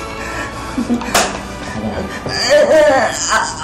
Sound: Artemio hums; chuckles

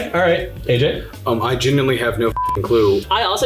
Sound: beeps

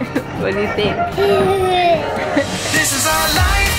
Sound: laughs; upbeat pop music

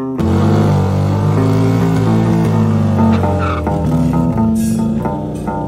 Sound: annoying burnout noises

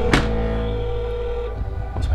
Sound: phone ringing

